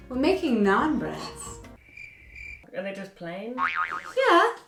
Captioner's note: crickets sfx